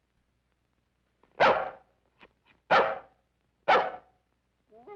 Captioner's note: dog barking